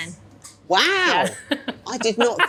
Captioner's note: laughing